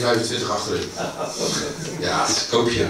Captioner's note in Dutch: gelach